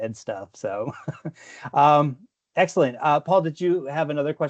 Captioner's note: laughs